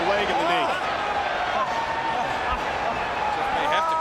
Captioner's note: spectators cheering